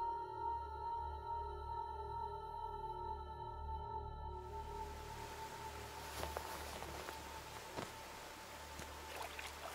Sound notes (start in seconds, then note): 4.9 water rushing